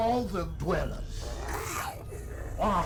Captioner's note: Giree growls